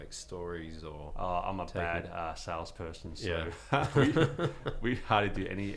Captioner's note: laughing